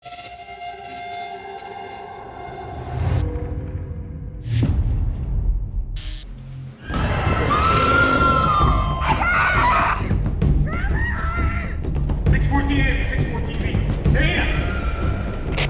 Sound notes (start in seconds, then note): 6.9 creature growls